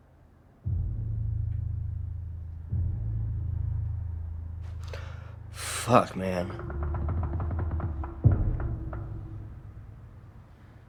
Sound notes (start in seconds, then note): 0.6 suspenseful music continues; 4.8 gasps